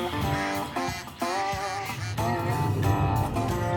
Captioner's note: ducks quacking